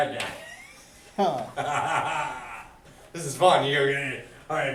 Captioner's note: laughs